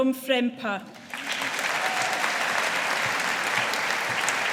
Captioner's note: audience applauding